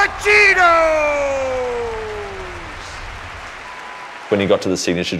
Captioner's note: applause